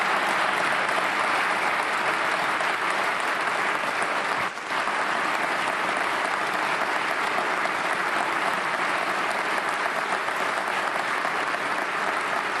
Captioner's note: applause